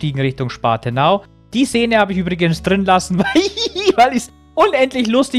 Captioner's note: laughs